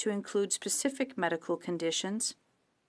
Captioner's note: speaking french